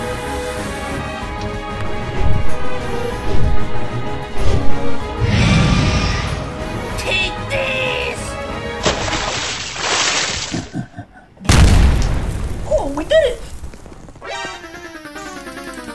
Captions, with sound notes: [roaring] Take this! [splash] [low-pitched laughter] [explosion] Oh, we did it!